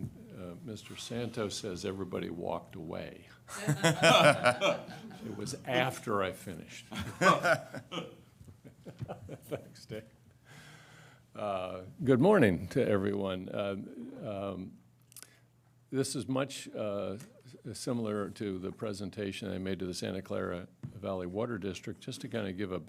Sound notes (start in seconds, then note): 8.4 laughter